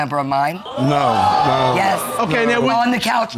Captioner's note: audience gasps